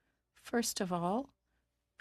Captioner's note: speaking in French